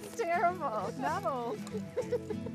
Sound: laughs

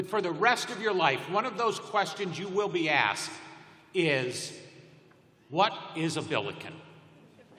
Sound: laughter

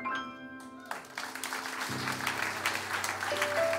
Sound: applause, music

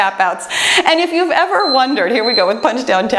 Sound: timer beeps

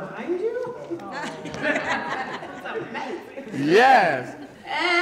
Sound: laughter

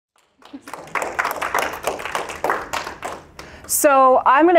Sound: applause

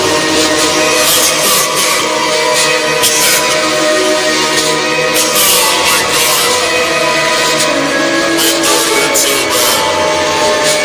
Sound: coughing

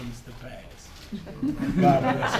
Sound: laughter

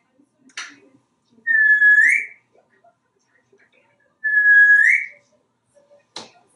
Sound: whistling

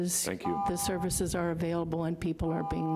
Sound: buzzer rings

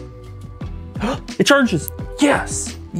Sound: gasps

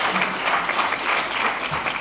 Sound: applause

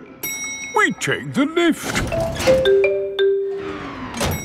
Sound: elevator dings

